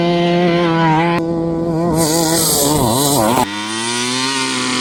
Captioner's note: truck engine revving